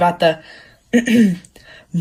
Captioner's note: clears throat